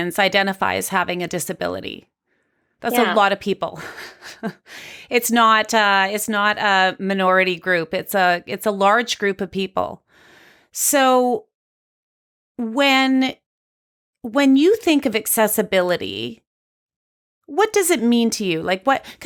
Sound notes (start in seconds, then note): 2.9 chuckles